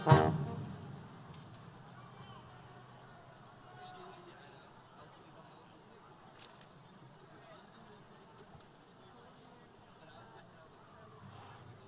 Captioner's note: background conversations